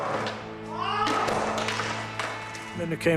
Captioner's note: screaming loudly; skateboard clatters to a stop